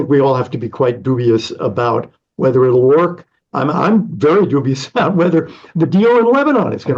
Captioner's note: laughs